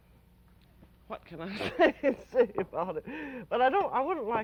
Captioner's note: laughs